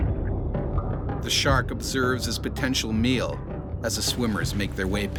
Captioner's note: voiceover